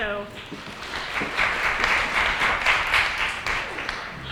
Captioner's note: applause